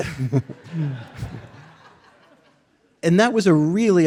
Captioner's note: audience laughing